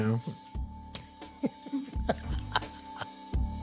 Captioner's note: laughs